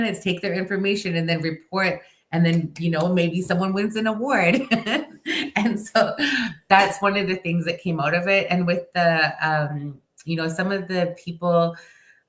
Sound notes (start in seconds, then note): 4.5 chuckles